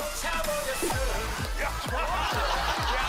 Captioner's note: laughter